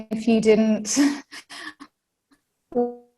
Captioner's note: laughs